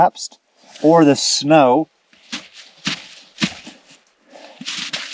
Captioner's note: snow crunching